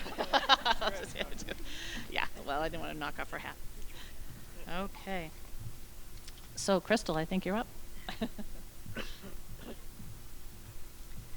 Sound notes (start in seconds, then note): 0.0 both laughing; 8.0 giggling